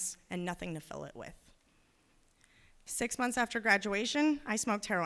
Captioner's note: none